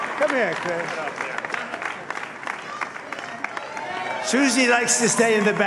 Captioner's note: applause